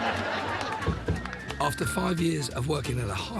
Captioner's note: mild laughter